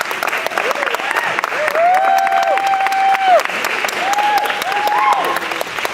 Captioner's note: clapping